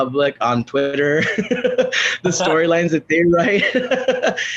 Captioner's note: laughs